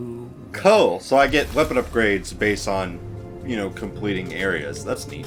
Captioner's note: none